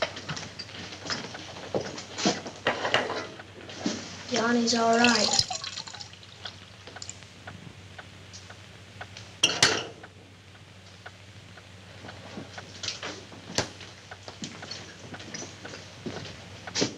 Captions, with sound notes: - Your arm is alright. [clock ticks faintly]